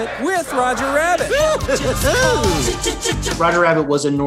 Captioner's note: Roger chuckling